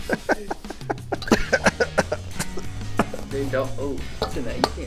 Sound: coughs

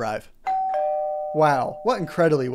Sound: ding-dong!

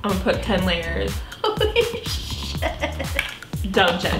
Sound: giggles

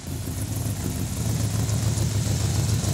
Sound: none

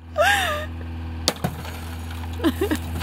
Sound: thump, glass shatters

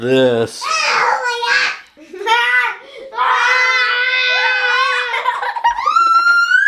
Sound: everyone laughing and yelling

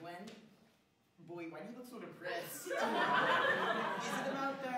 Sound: laughter

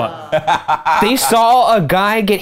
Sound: laughing

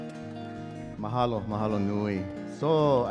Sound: speaking in Hawaiian

